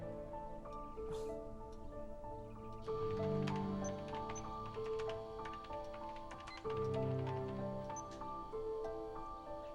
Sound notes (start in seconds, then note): 2.8 keyboard clicking